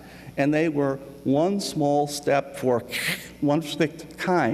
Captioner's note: static sound